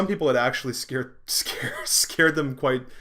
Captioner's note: laughing